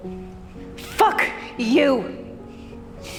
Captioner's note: shouting